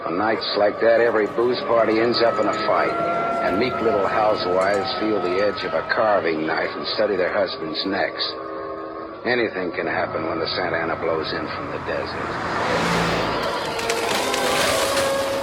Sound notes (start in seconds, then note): 12.5 rushing vehicle; 13.3 cracking wood